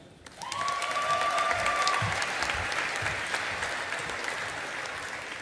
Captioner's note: audience applauding